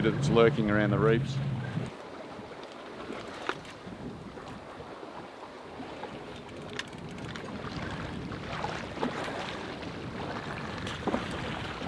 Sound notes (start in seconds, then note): 1.9 water rippling; 8.9 fish splashing